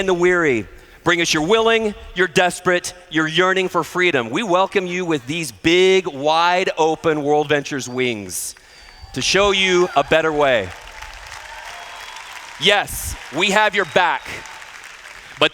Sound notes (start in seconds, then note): 10.6 applause